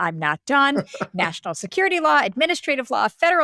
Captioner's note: laughter